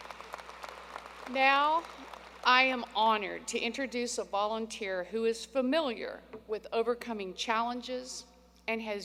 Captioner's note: applause